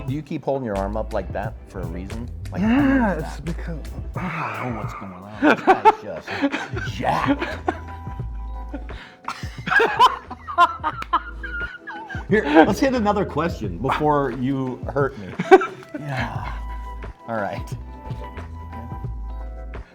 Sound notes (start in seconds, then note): 4.1 sighs; 4.2 laughs; 9.0 both laughing